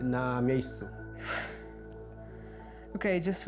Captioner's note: speaking in foreign language; sighs